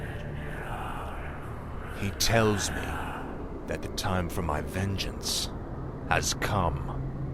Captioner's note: whispers